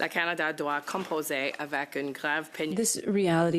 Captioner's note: speaking in French